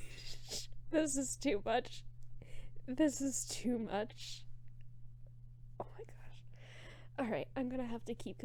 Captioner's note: whispers